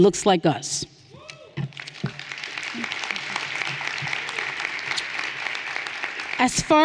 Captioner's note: everyone cheering and applauding